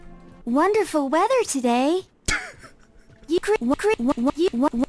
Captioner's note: chuckles